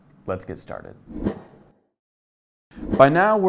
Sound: air whooshing

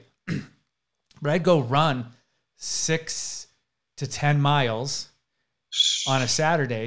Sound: clears throat

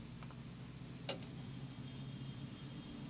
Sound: Gaslamp clinks

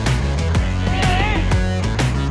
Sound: shouting

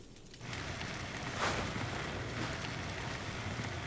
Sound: fire burning

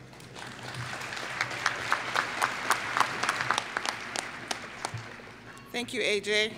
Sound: applause

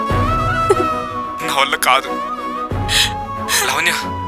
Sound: lavanya : cries deeply; lavanya : cries deeply

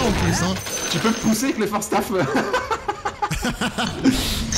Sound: laughs

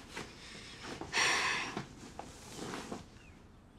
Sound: sighs

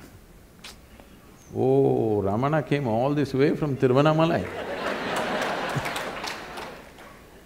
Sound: laughter/Applause

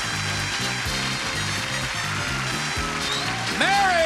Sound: theme song continues; audience applauding

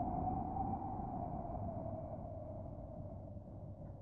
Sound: wind whistling gently

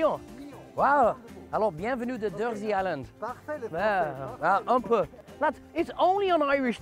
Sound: speaking in French

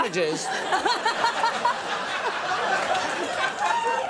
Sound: audience laughs

